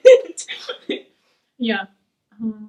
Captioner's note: laughing